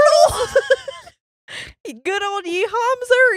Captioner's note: laughing